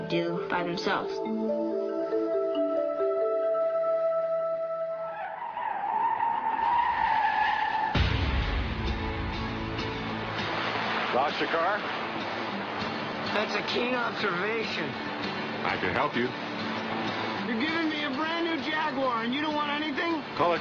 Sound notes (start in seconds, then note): 5.1 car tires squealing, crash